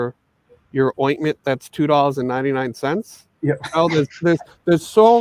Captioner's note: laughing